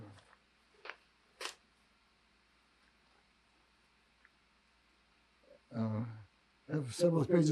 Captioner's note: pauses 6 seconds